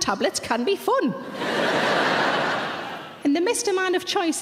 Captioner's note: audience laughing